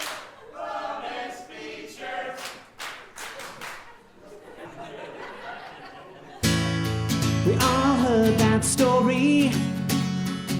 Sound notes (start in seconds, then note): 0.0 clapping; 2.3 clapping; 3.4 laughing